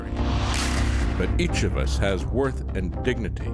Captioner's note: gun Firing